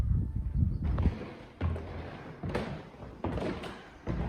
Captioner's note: creaking stairs